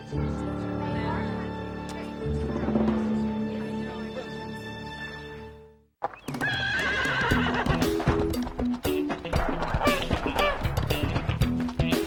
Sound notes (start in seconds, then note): 0.1 dramatic music plays; 6.4 horse neighs; 9.4 goose quacks